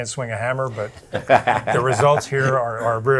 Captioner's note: laughing